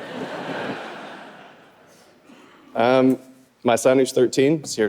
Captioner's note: audience laughing